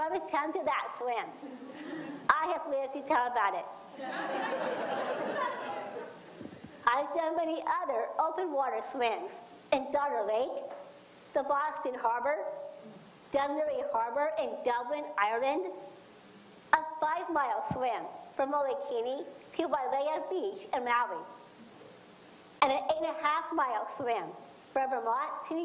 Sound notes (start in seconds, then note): 4.0 audience laughs